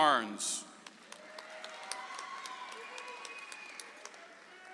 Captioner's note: audience applauds